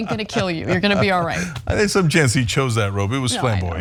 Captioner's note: laugh